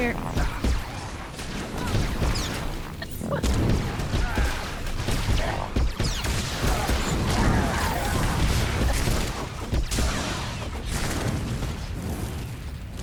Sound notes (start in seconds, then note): 0.5 gunshots